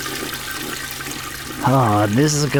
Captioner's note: flushing noise